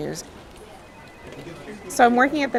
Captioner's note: phone ringing